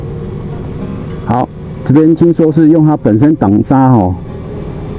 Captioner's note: engine brake